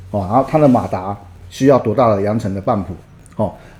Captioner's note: motor